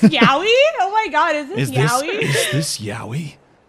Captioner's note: laughs